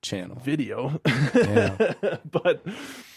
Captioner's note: laughs